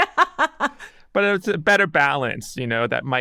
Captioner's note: person laughing